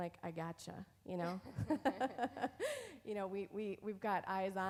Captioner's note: both laughing